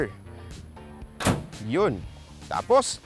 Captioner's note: door thuds